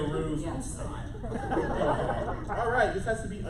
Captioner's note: laughter